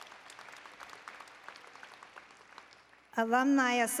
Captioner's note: applause